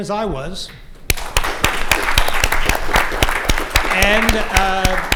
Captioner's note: applause